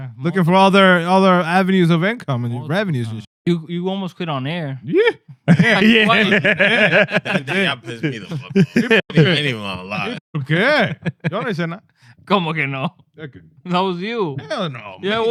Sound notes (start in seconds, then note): 5.4 laughter; 6.5 speaking Spanish; 12.0 speaking Spanish